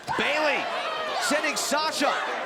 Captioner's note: crowd chatter